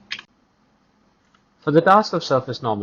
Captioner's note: click